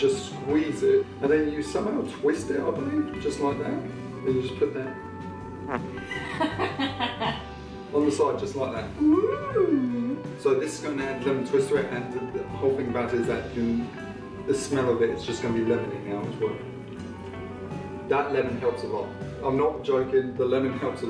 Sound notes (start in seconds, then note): 2.7 fart sound; 6.0 laughing